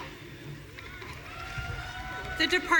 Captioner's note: audience cheering